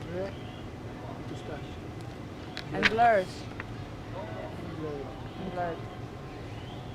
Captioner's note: hebrew